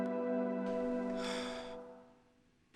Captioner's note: sigh